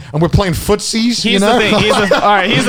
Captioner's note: chuckles